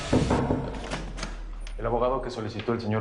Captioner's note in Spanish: Toques en la puerta